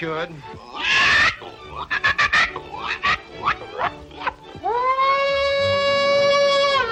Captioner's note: Lullaby imitates hog grunting and squealing